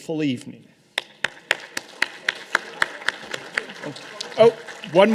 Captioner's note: audience applause